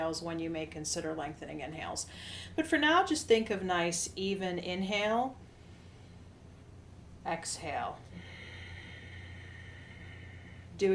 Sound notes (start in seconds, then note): 5.9 inhales; 8.0 exhales